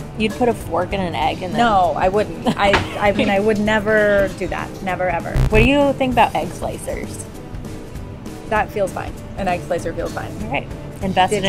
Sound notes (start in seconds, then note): 5.3 buzzing